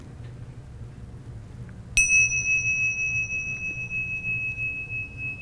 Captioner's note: bell ringing